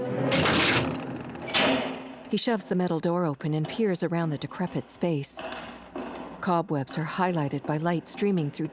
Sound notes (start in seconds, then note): 0.3 door clanging; 3.7 distant footsteps